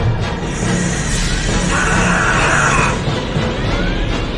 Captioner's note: scream